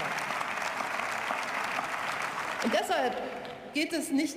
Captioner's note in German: Beifall